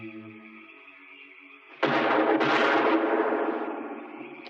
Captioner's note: gun firing